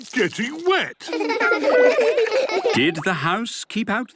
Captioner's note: laughter